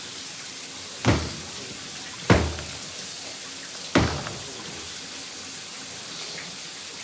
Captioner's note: hand slamming; water splashing